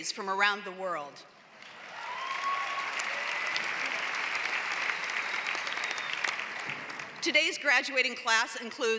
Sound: applause

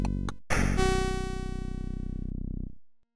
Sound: gun shot

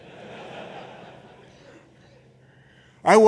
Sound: laughter

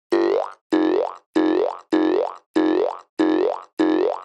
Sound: boing-boing sound

